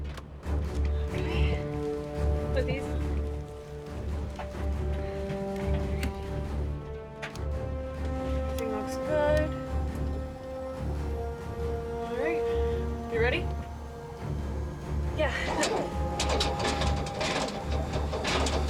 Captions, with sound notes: Okay. Put these on. Great... Looks good. [rotors start] - Great. You ready? - Mm-hmm. Yeah. [engine sputtering]